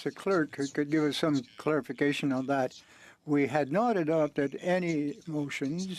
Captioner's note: speaking french